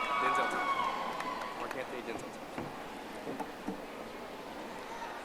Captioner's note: audience applauding